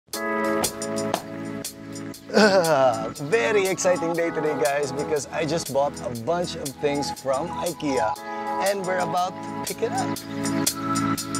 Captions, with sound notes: (grunts) It's a very exciting day today, guys, because I just bought a bunch of things from IKEA. And we're about to pick it up.